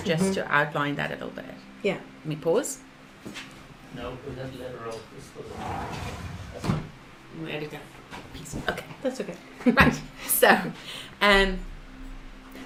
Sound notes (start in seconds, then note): 5.5 dragging; 9.2 laughs